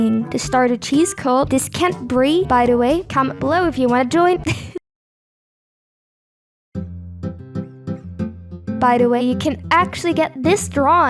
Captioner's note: luagh